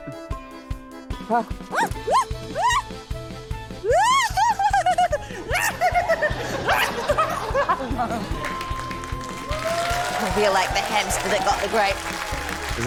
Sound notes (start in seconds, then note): 2.3 squeals; 3.8 exclaims, laughs; 8.1 cheering, applause